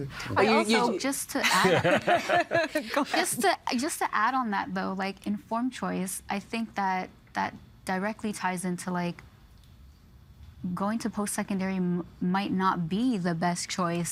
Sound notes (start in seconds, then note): 1.4 laughing